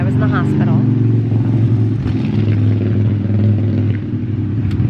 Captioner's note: traffic sound